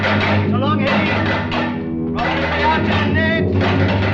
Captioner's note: German spoken audio